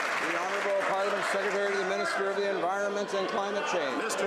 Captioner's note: some Applause